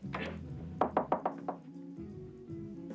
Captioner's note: knocking on door